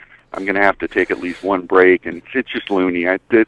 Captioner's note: laughs